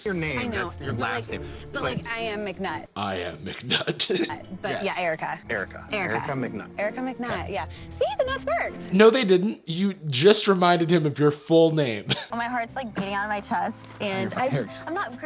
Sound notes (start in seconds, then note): 3.5 laughing